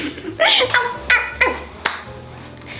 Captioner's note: monkeys sound